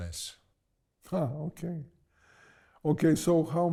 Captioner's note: laughs